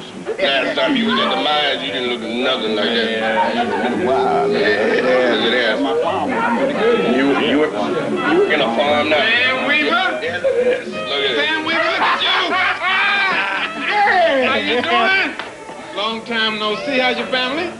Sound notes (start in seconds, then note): 4.1 indistinct chatter; 8.9 playful; 11.6 laughter; 15.2 patting